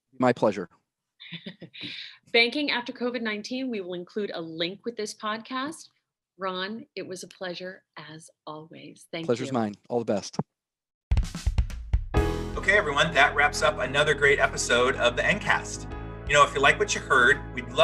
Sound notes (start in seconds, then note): 1.3 laughs; 12.2 uprising music